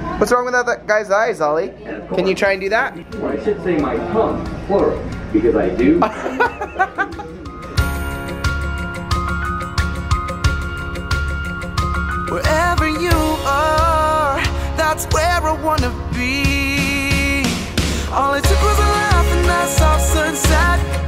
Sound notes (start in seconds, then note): 6.0 laughing; 7.8 light, upbeat music